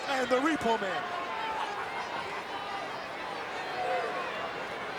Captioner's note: crowd yelling